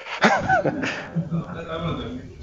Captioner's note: laughter